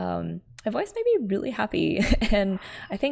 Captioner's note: laughs